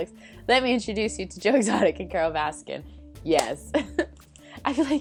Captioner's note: claps